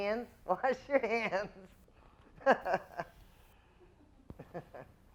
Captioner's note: giggles